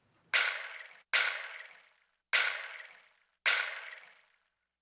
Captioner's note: rain stick banging